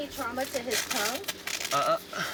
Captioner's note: velcro ripping